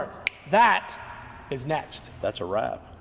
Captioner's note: snap